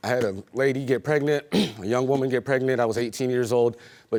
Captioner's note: clears throat